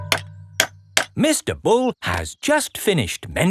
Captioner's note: clanking